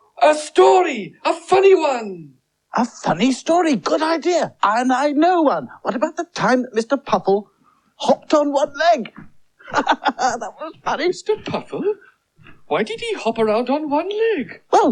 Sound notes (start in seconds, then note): 9.5 giggles